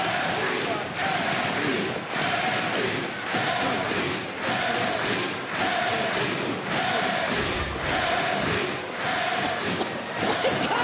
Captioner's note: crowd cheering